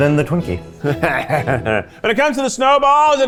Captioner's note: laughing